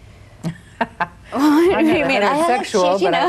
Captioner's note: laughs